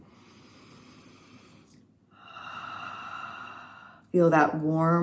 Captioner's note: haaaa sound with mouth open on exhale